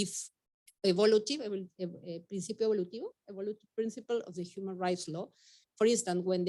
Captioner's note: speaking Spanish